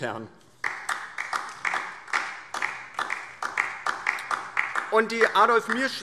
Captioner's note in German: Beifall DIE LINKE